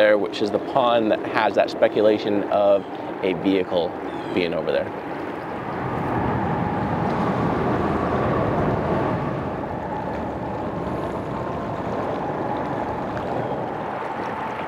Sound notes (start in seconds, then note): 6.2 boat engine echoing